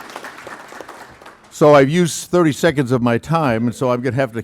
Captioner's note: applauding